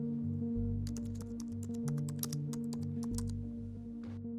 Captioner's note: keyboard clacking